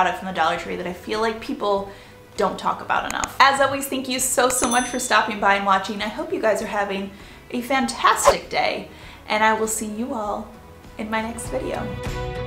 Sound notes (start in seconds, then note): 3.1 clicking; 4.6 bell dinging; 8.1 whooshing